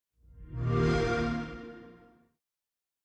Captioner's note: xbox sound